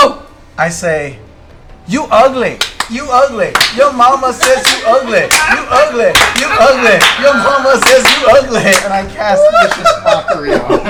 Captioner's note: chants; laughter